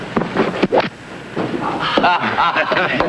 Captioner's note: knife thwacking; group laughing